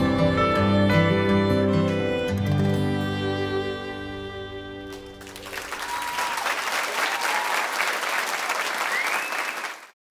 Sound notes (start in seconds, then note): 5.1 cheers and applause